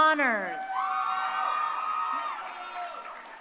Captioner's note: crowd cheering